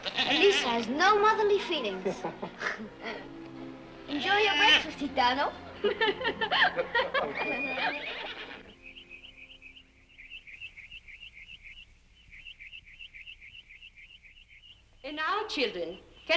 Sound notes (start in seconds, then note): 5.7 laughter; 7.3 horse whinnies